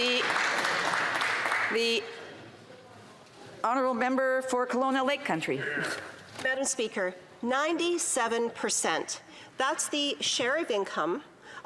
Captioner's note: some Applause